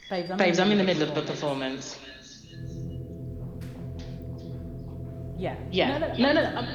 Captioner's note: voice echoes into the phone over the loud speaker